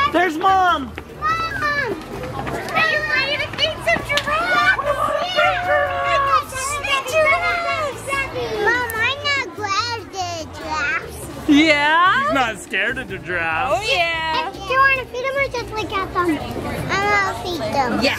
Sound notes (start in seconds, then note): 4.2 excited shouts